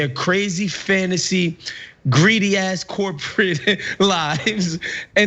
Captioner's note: laugh